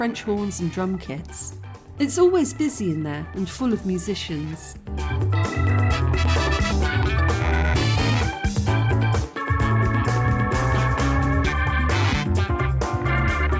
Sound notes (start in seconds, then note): none